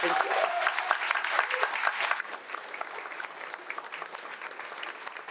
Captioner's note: audience applauds